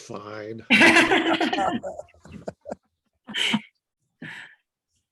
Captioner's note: group laughs